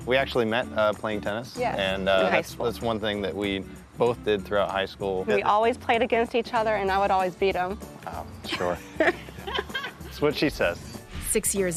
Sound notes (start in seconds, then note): 8.6 laughs